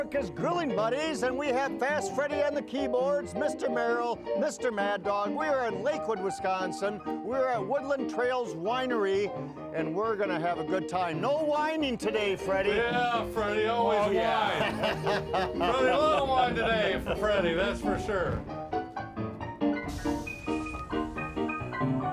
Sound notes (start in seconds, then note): 13.8 all laughing; 16.1 piano playing; 19.2 piano playing